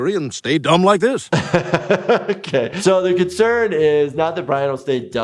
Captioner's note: laughs